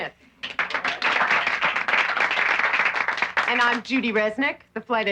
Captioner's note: applauding